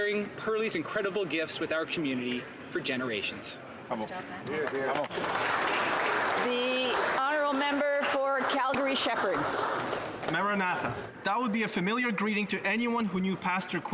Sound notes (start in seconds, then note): 8.4 applause